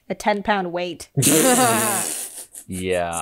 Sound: laughs

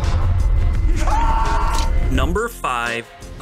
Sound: screams

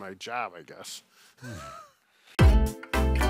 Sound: both laughing; upbeat music

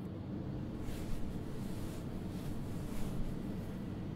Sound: bed sheets rustling

